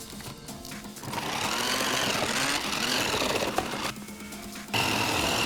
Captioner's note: blender whirring